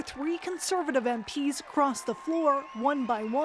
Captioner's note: applause